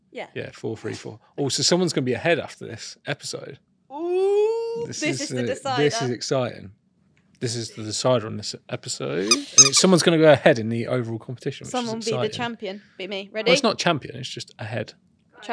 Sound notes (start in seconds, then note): 9.2 ball squeaks